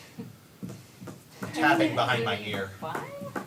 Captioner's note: dancer's foot taps